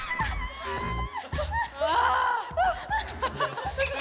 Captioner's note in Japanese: （カメラ監督）ハハッ… アハハ